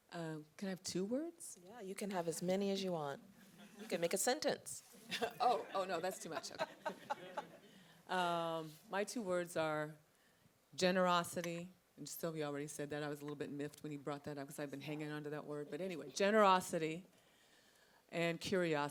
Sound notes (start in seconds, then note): 7.4 laughing